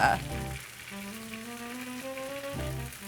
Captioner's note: sizzling; gentle music